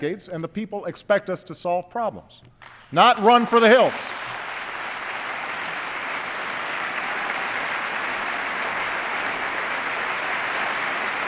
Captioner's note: applause